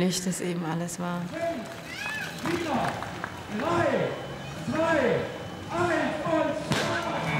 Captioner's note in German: Mann über Lautsprecher